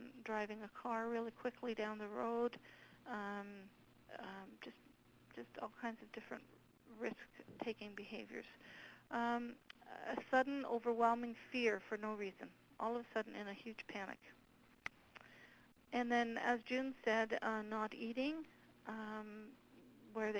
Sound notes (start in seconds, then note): none